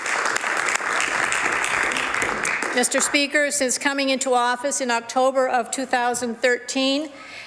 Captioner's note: some Applause